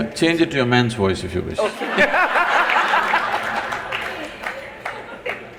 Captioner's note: laughter/Applause